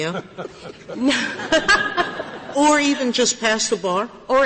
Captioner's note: laughter